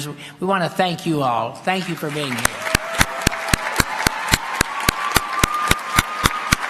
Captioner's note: applause